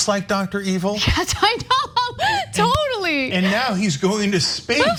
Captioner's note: laughs